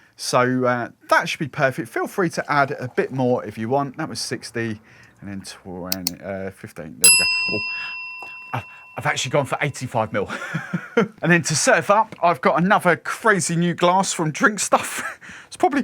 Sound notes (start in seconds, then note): 7.0 bell dinging; 10.3 laughs loudly